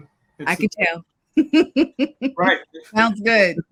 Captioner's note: laughs